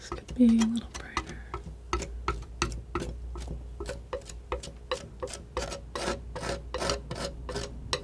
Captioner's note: tapping